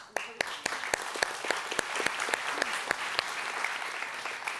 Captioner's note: audience applauds